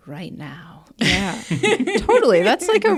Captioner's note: speakers laugh